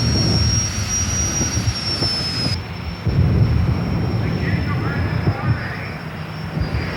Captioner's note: fire roars; jet engines whine